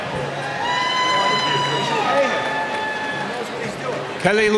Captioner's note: cheering